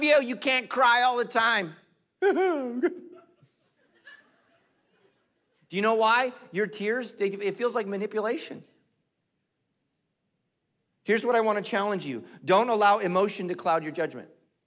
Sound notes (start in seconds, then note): 2.2 crying